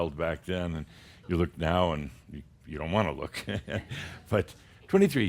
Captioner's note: Adamus chuckles